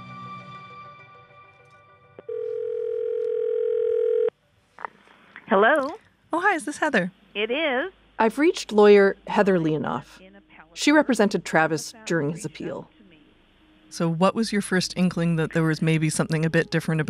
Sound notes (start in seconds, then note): 2.2 phone ringing